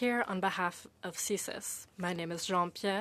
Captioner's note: speaking French